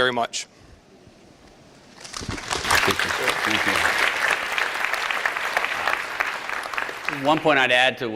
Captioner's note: applause